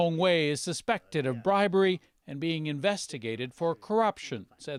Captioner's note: speaking chinese